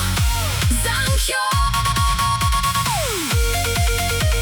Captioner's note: echoes